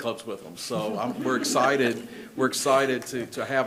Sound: people laugh

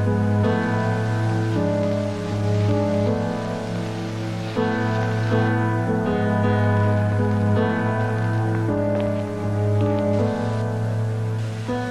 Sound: music and tape recorder static fades out

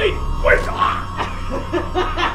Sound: maniacal laughing; pained grunting

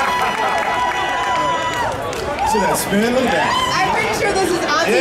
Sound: male announcer laughing

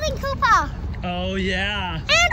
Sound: child exclaiming

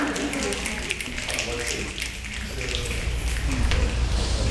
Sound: snapping

